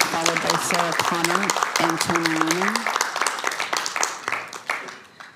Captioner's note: cheering/Applause